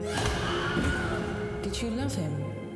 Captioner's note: scream